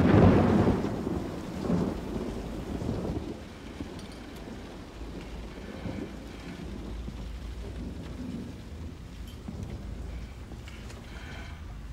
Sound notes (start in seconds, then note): 0.0 thunder booming